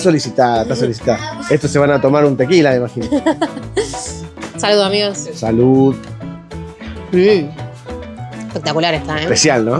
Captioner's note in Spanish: risas